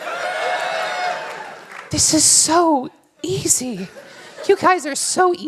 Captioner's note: applause